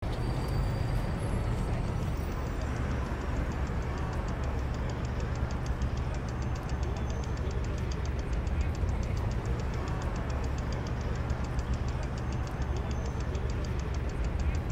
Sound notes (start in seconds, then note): 0.4 traffic hums; 2.9 bicycle spokes flutter